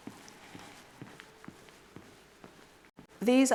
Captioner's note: footsteps plodding